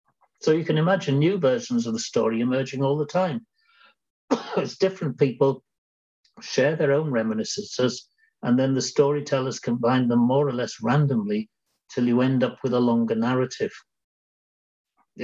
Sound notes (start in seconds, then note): 4.3 coughs